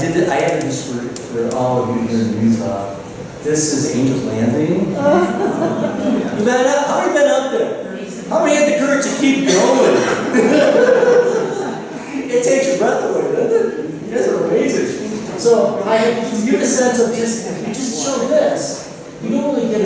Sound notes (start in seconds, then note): 10.1 laughter